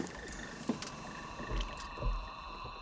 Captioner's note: whirring